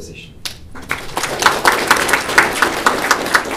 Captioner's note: applause